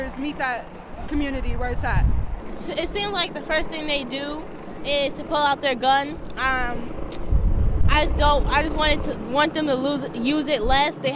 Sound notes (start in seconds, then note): none